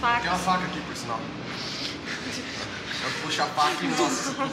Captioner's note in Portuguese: risos